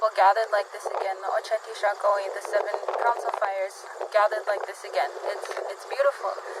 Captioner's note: speaks in Sioux